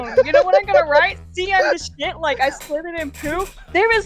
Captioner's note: laughter; laughter